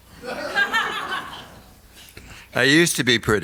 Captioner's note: audience laughs